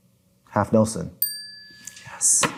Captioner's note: bell dings